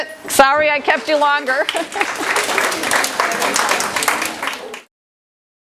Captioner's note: audience applause